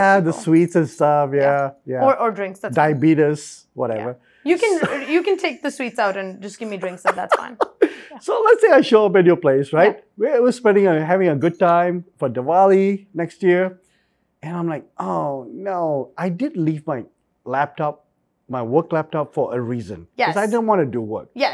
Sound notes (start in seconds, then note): 6.7 laughs